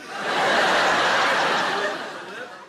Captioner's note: audience laughs